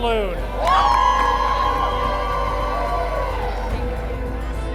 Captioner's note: cheers